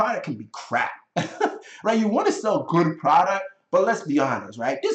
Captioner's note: chuckling